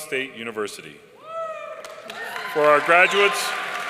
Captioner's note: audience cheering and applauding